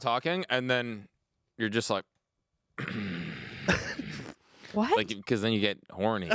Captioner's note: grunting